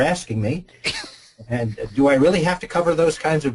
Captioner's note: laughs